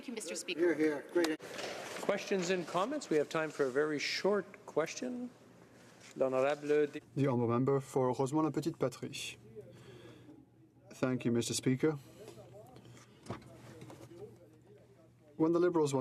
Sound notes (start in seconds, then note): 12.8 speaking french